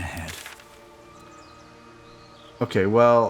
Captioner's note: silence